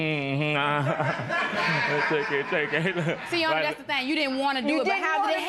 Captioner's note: laughter